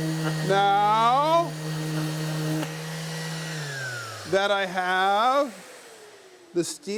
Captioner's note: machine roaring